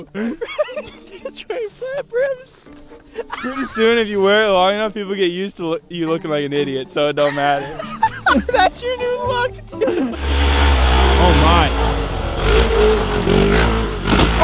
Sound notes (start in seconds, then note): 3.0 laughs; 7.2 laughs; 10.1 engine roars